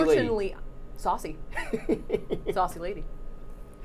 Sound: laughing

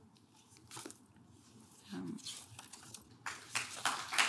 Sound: audience clap

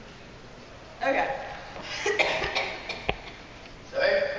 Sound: coughing

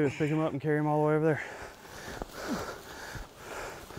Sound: people panting

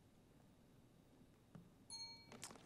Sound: timer dings

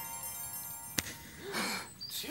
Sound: snap!

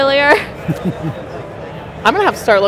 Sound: laughs

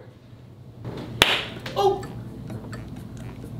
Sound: popping

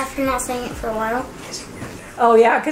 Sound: whisper

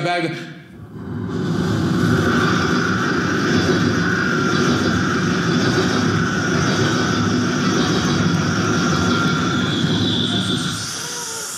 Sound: subway train sounds

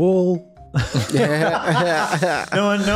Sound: laughs

